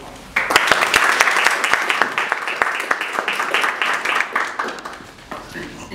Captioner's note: applause